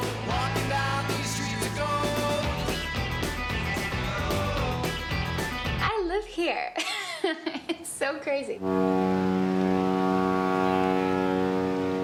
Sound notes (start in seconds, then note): 6.8 laughs; 8.6 horn blows